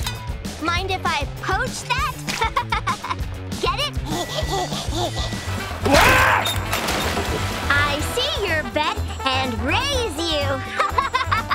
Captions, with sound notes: Mind if I poach that? [laughing] Get it? [laughing] [screaming] I see your bet and raise you. [laughing]